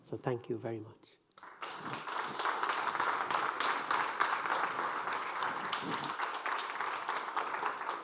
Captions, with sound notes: so thank you very much. (audience applauding)